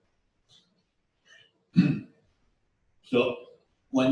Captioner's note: pause